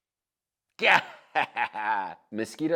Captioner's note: laughs